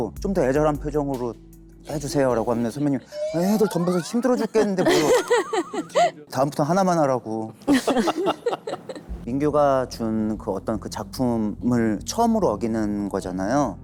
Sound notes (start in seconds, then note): 4.8 laughing